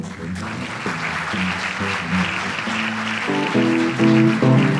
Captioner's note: audience applauds